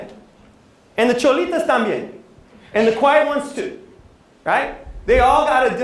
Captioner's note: non-english speech